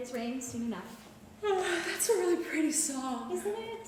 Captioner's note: yawns